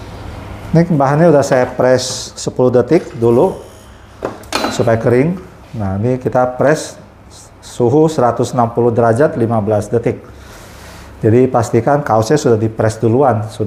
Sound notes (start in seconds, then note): 3.1 press machine noise